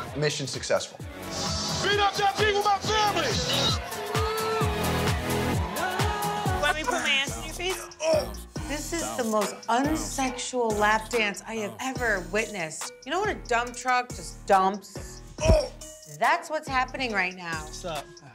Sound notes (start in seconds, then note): 7.9 Vinny grunts; 15.4 Vinny groans